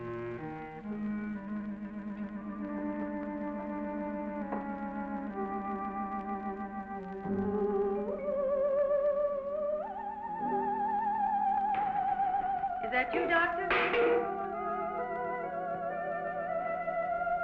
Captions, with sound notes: (slow paced music) (eerie music) - Is that you doctor? (can clanking)